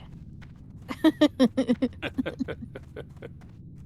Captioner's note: laughing